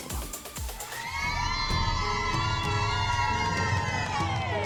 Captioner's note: cheering